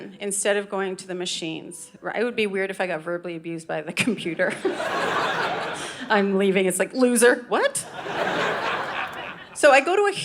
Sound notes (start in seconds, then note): 4.5 audience laughing; 7.8 audience laughing